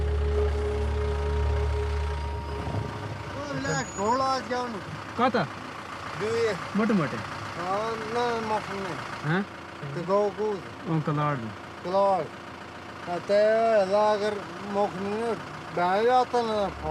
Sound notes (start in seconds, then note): 3.2 foreign language spoken